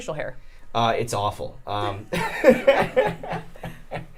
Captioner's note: laughing